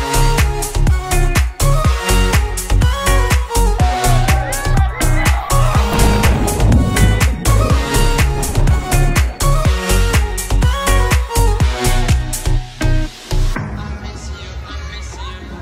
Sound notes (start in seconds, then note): 4.0 squeal; 5.2 water pounding; 8.1 digital pop music